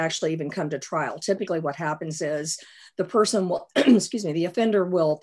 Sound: coughs

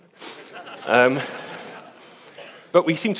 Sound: audience laughs

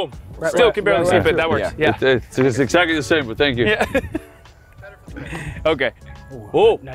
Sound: laugh

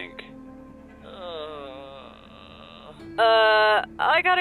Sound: groans

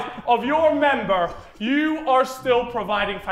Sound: Sidemen laughing

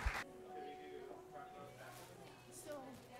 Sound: room chatter

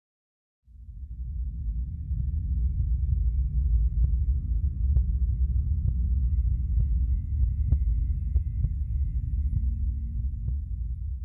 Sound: ominous rumbling

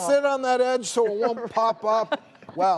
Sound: panel members chuckling

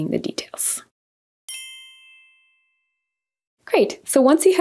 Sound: bells chiming

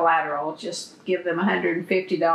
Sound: laughs

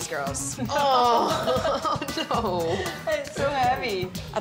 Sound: both chuckle

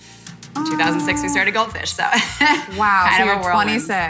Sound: laugh

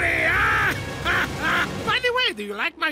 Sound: laughs

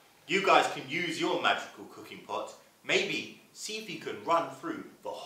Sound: none

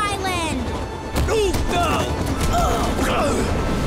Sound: groaning

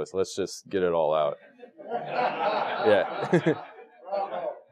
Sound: laugh

